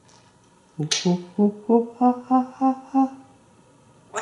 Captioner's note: monkey sounds